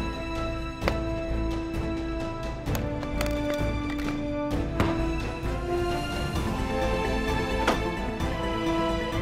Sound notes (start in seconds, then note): 4.6 bangs table loudly; 7.6 door opening